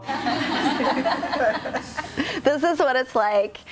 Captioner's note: people laughing